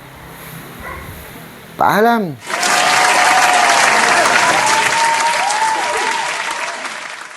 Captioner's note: applause